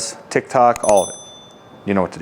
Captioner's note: bell rings